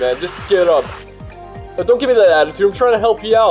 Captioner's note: screetches